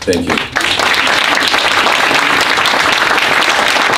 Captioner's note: applause